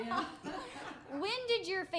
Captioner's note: laughing